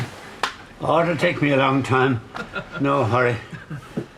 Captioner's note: they laugh